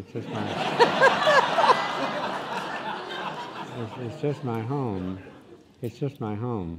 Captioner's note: laughing